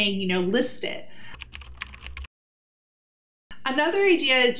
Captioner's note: keyboard clicking